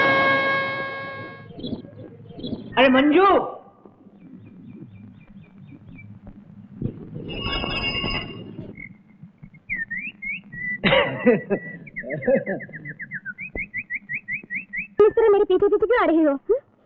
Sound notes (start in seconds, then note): 7.3 cycle bell rings; 10.8 laughs